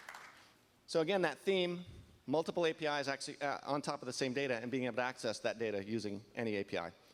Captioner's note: applause